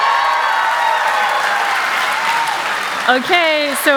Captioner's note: cheers and applause